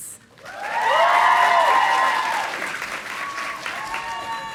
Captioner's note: audience applauding